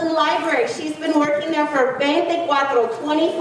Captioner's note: speaking in foreign language